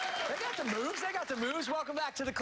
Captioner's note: cheers and applause